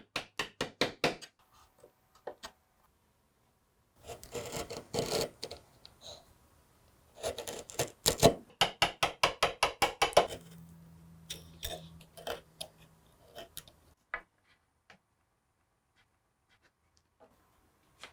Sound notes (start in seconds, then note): 0.2 chisel thudding; 4.0 chisel scraping; 8.6 hammer tapping